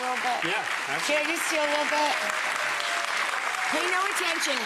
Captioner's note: hands clapping